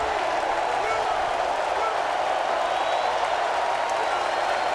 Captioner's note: crowd cheering continues